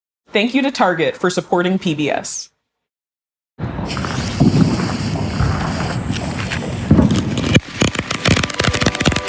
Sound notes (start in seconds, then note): 3.7 fireworks crackle